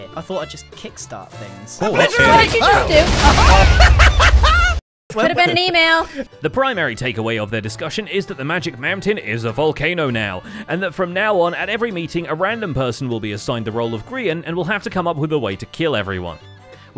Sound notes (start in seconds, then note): 2.4 explosions; 2.7 cackles